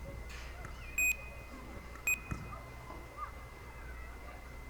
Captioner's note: mic beeping